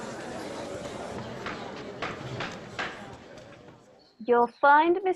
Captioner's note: chatter of excited voices; gavel